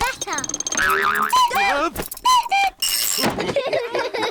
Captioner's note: clock cuckoos; all laugh